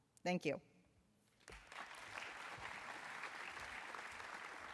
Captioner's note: applause